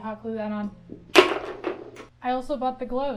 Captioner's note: crash